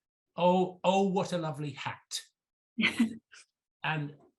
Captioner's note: chuckles